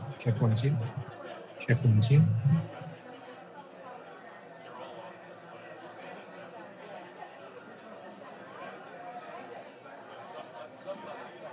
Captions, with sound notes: One, two, check one, two, check one, two. (audience chatting)